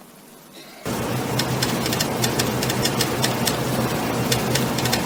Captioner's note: ticking sounds